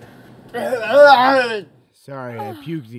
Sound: vomiting

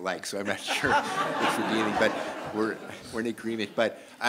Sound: laughter

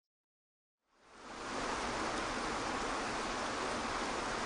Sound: water rushing

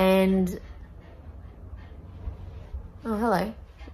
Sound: sounds of dog panting

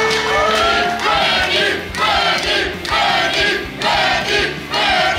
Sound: crowd chanting " "

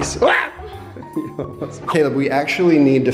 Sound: exclaims

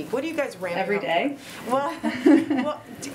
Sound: laughs

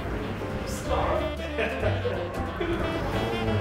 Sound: laughing

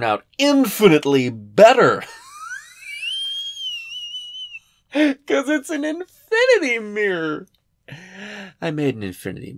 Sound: wheezy, maniacal cackling

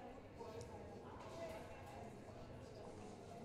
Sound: none

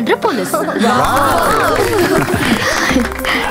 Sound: applause

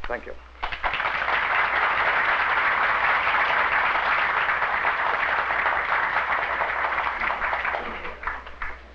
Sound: applause

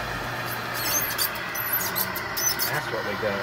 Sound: metal squeaking

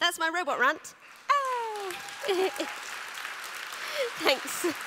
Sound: applause

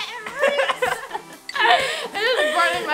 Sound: laughing

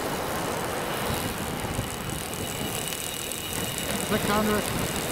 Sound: line spooling off

